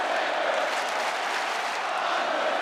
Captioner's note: audience clapping